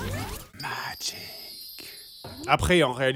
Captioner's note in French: chuchotant